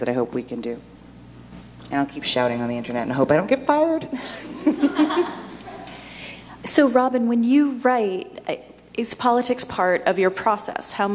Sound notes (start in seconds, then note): 4.4 audience laughs